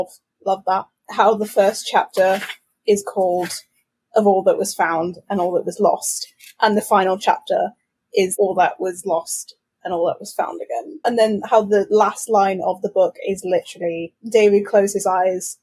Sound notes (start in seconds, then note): none